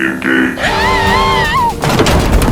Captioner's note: scream